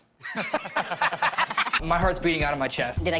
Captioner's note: ascending laughs